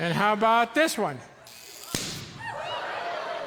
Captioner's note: electricity thrums, cork pops; audience yelps, laughs